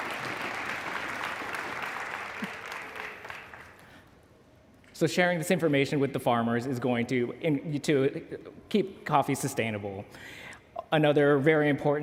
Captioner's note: applause